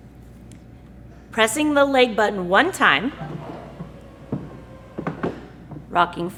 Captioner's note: sound of legs retracting